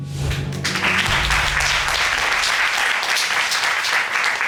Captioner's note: audience applauding